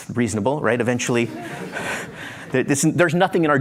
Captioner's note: laughter